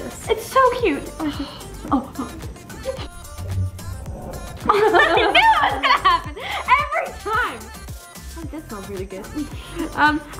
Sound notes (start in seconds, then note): 5.5 laughing